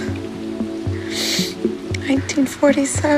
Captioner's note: sniffles